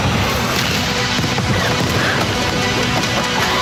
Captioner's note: bombs exploding